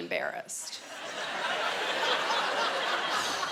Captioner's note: laughter